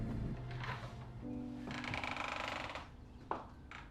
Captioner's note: sound of door opening